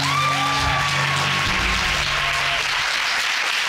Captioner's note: audience whooping